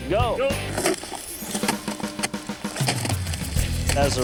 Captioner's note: upbeat music; slab rumbling